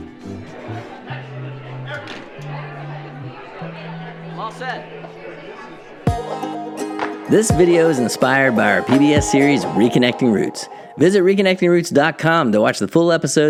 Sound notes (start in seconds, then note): 0.0 noisy background talking